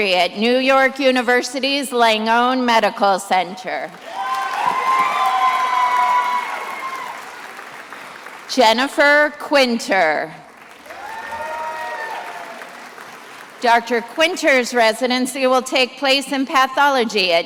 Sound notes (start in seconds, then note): 3.9 attendees applauding and cheering; 10.4 attendees applauding